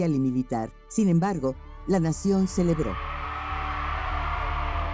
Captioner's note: crowd cheering